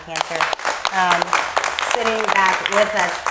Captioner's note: audience applauding